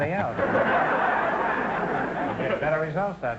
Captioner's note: audience laughter